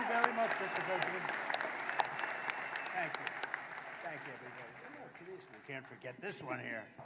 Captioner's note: applause